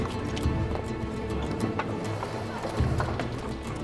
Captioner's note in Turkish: Kapı açılma sesleri